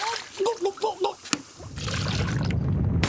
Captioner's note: gulping